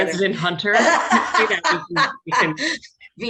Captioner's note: laughing